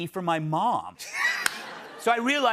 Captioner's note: laughter